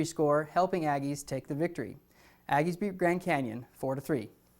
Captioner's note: none